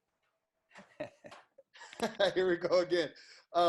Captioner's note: laughs